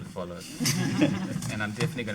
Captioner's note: audience laughing